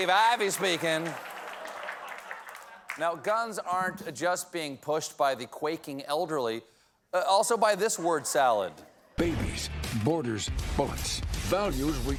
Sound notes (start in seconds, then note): 4.3 applause; 4.3 laughter